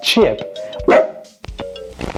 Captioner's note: Chip barks